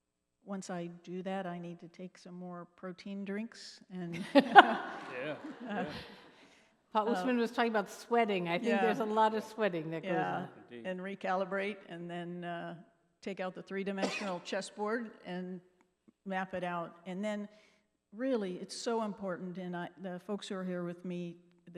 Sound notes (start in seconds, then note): 4.2 laughing